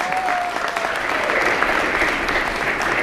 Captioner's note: applause